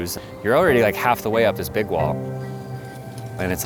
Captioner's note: wind hissing